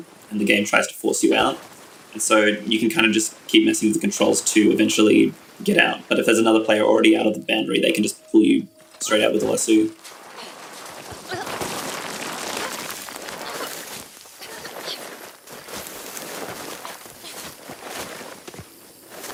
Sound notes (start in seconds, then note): 9.8 body falling; 11.1 woman grunting